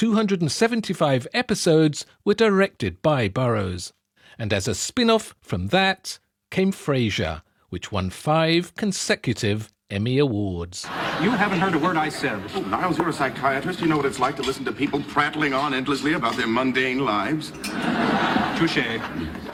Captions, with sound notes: 275 episodes were directed by Burrows. And as a spinoff from that came Frasier, which won five consecutive Emmy Awards. You haven't heard a word I said. Niles, you're a psychiatrist. You know what it's like to listen to people prattling on endlessly about their mundane lives. [laughing] Touché.